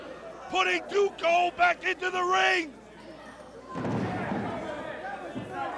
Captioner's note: crowd chatter